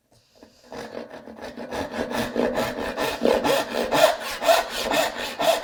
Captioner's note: saw on wood rhythmically rasping